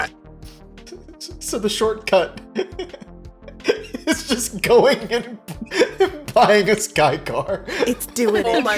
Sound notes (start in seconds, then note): 2.1 laughing; 8.2 giggles